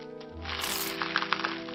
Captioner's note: crunch sound